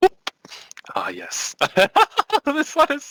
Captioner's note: hahahahahaha